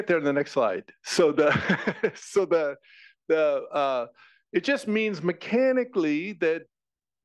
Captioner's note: laugh